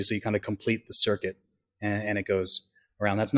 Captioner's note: none